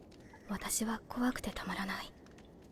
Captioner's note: Korean